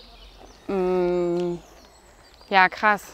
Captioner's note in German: Vogelzwitschern